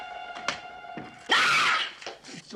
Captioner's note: screams